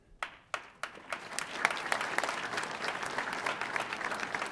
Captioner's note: audience applauding